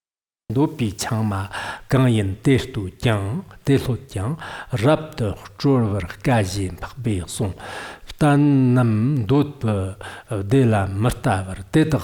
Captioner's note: giving oral transmission in Tibetan